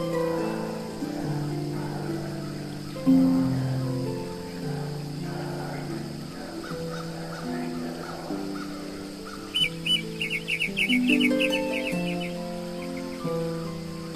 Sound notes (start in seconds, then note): 9.9 birds chirping